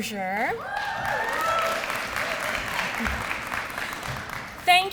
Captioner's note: applause